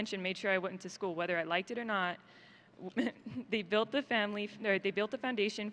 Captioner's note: laughs